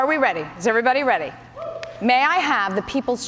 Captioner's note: rips